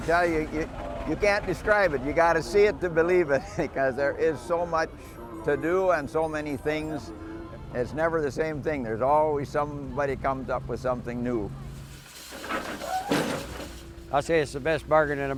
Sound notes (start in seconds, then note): 3.2 laughs